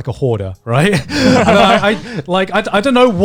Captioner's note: chuckles